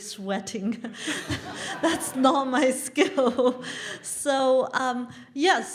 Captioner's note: laugh